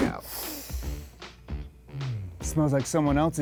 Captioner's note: whooshes; inhales